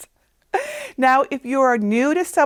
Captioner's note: chuckling